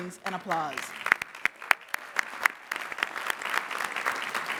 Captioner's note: applause